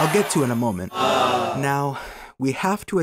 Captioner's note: Wii Sports applause; Wii Sports "Awww"